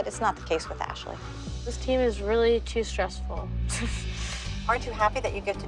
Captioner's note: laughs